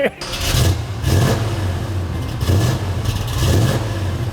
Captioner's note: engine revving